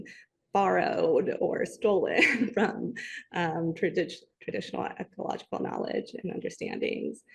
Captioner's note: chuckles